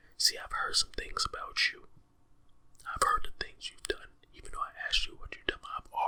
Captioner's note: none